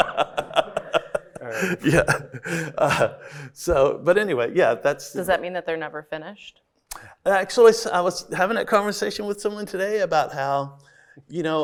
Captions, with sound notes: - Yeah. (laughs) So, but anyway, yeah, that’s- - Does that mean that they’re never finished? - Actually, I was having that conversation with someone today about how, you know,